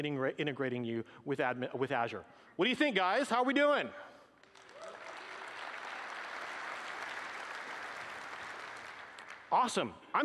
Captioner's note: applause